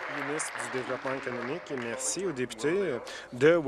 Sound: applause

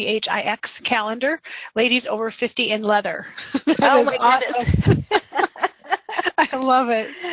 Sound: laughs

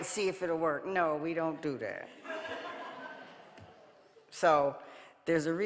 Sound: audience laughing

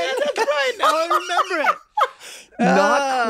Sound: laughing

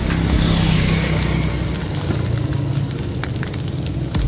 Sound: oil sizzling

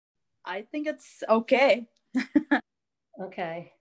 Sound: chuckles

